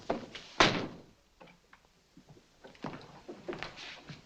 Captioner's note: door slams